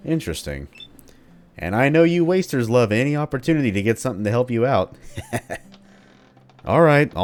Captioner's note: nasty chuckle